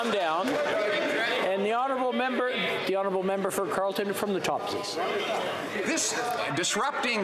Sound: mixed voices

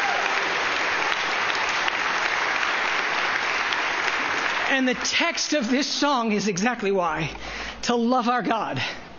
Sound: cheering and applause

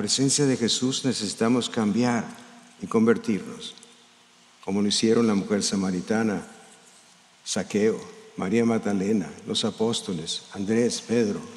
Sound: speaking in spanish

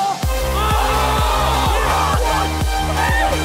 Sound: cheering; electronic music

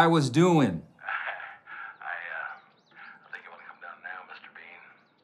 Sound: Mr. Konger chuckles

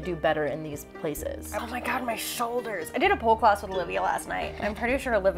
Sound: chuckles

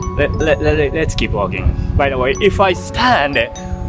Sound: none

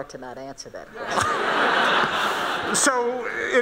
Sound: laughing

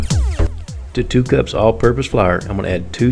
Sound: voiceover

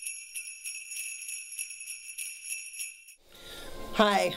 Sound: sleigh bells

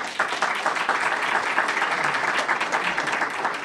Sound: applause

